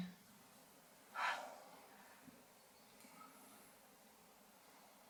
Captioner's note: Hannah sighs